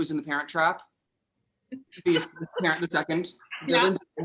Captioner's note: laughs